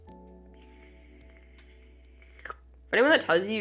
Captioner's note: slurp